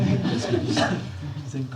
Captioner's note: laughter